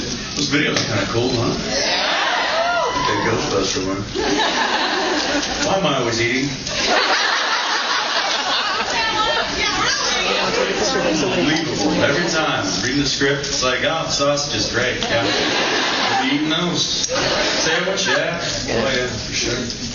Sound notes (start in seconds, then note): 6.6 audience laughs